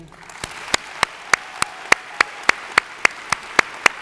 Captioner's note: audience applauds